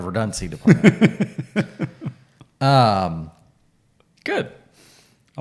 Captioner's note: laughing